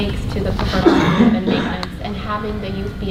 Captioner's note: coughing